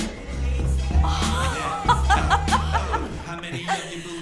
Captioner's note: rhythmic music playing; laughing